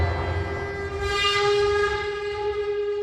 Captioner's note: scraping sound